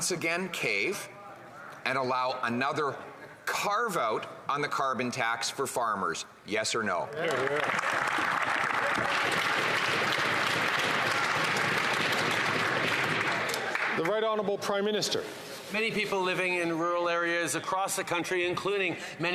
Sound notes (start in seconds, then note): 13.3 applause